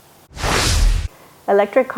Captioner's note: graphics whooshing